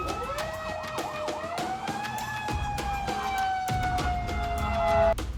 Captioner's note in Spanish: Sirenas